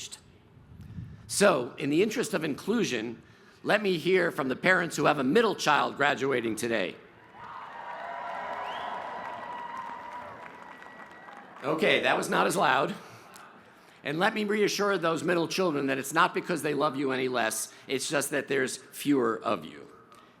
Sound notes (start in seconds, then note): 11.4 cheers and applause